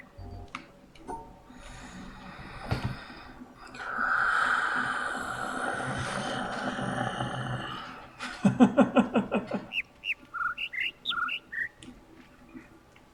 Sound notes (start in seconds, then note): 0.0 overlapping birds chirping, ˥ ˧ ˥ ˩; 3.8 growls; 8.2 laughs; 10.4 overlapping birds chirping, ˥ ˥ ˩ ˧ ˩